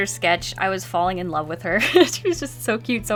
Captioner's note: laughs